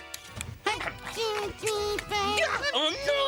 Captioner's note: tiny voice counting